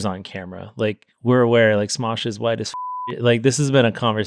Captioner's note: beep